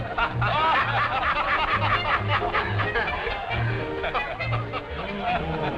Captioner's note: laughter